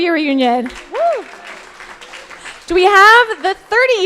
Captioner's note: crowd applauding